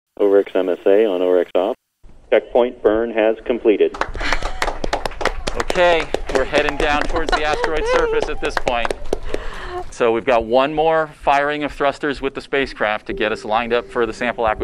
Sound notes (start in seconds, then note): 0.2 voice on radio; 3.9 clapping and excitement